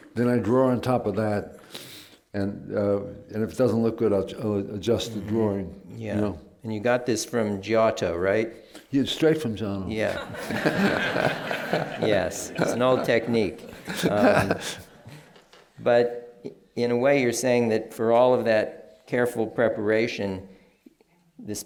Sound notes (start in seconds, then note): 10.1 laughter